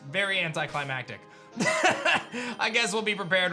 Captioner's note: laughs